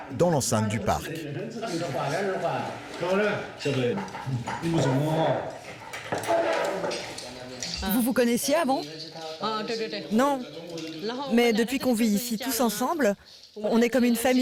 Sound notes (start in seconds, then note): 0.1 both speaking foreign language; 8.0 speaking foreign language